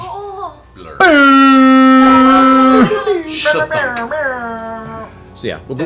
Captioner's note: air horn noises